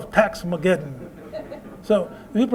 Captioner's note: laughter